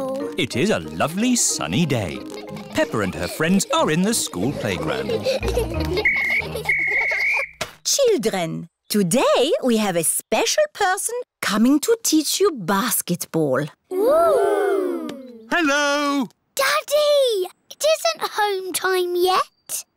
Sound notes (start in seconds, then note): 6.0 blows whistle